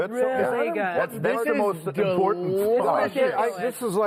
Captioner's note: chatter